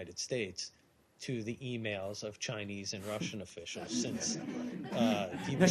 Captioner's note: laughter